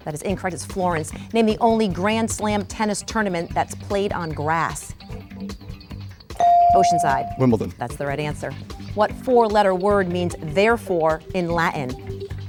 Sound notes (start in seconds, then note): 4.5 bell dinging